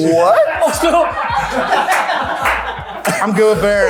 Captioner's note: people laughing